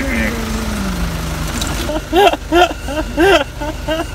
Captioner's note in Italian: risata malefica